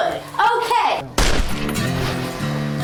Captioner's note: gunshot